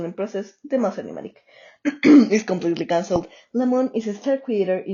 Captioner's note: ahem